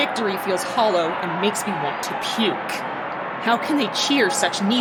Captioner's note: cheers and chants and crowd goes wild